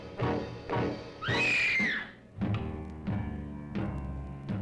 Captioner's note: Jane screams